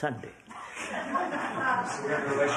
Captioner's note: laughter